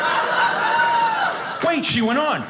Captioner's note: audience laughing